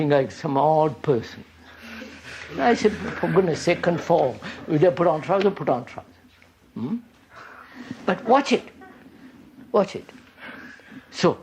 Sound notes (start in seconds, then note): 2.2 laughter